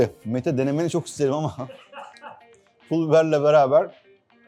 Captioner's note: special laugh